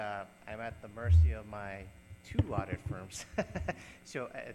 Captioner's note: laughs